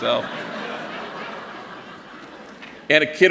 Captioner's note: laughter